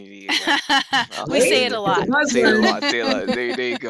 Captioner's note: laughs